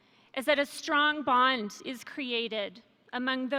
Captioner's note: none